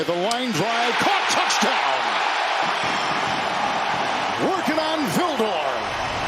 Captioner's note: cheers and applause